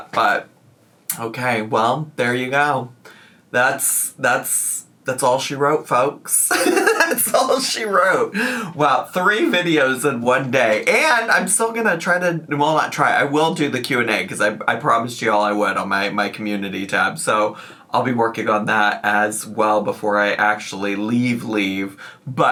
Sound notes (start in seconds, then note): 6.5 laughs